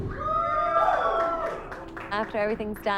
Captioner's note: everyone cheers